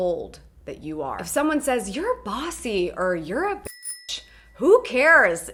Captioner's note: bell rings